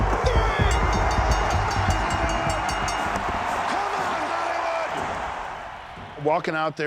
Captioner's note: applause